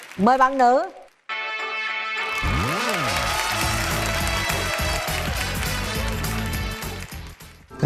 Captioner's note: applause